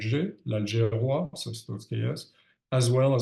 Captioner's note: speaks in French